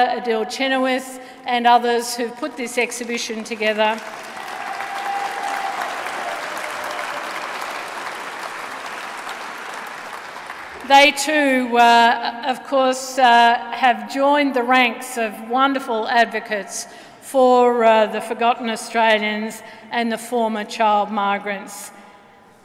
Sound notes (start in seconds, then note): 4.4 applause